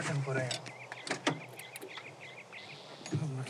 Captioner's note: Car door opens